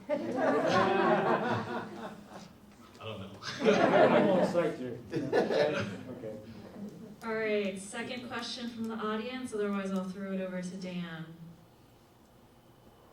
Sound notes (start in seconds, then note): 0.0 audience laughs; 0.0 laughs; 3.3 audience laughs